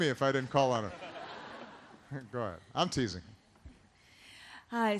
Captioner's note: laughter